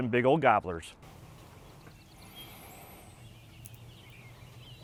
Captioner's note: birds tweeting